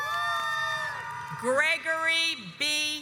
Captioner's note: audience cheers